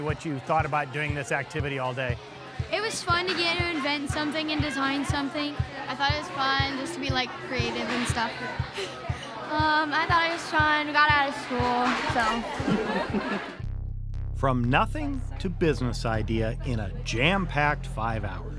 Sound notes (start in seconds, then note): 8.1 upbeat music; 12.6 laughs